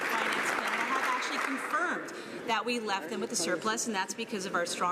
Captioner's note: some Applause